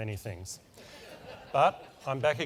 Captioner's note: laugh